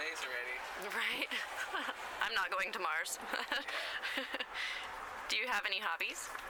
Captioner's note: laughs